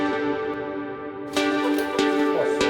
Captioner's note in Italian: Applauso